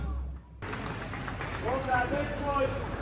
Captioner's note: applause